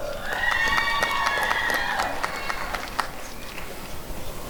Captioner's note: applause and cheering